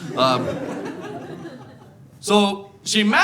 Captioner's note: audience laughing